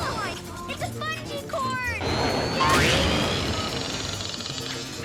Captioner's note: engines rev